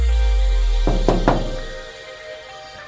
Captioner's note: knocking